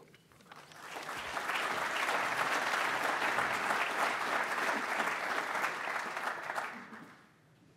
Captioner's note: audience applauds